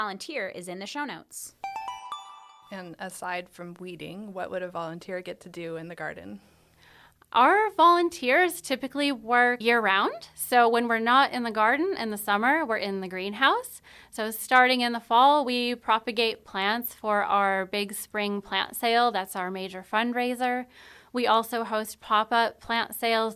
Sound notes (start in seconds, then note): 1.6 chime